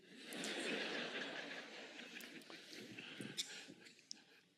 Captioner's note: audience laughing